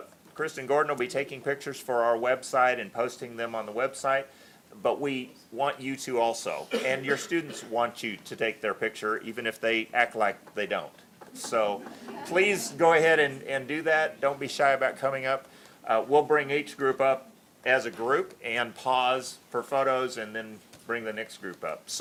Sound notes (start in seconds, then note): 11.3 laughter